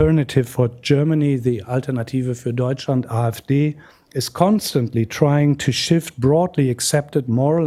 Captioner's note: non-english